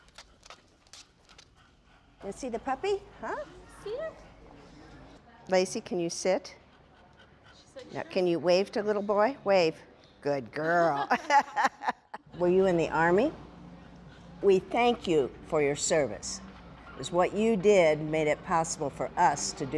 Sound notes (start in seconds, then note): 10.8 laughing